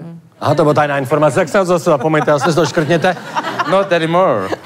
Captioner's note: laugh